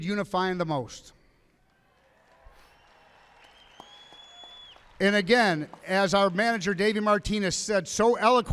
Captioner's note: applause